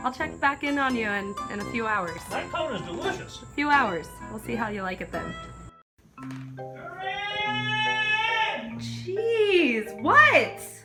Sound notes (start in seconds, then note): 7.1 yelling from across the house